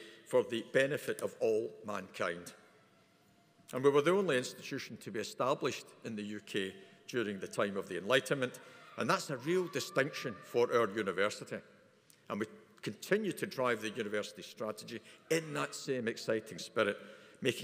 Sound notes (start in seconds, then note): none